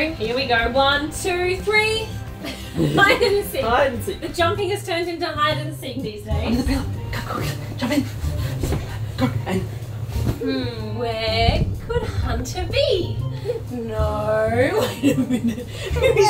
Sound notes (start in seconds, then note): 2.4 both laughing; 15.0 everyone laughing; 15.0 laughing